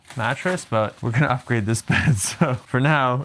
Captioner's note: laughing